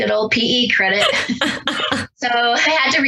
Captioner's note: both laugh